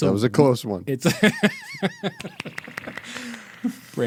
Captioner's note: laughing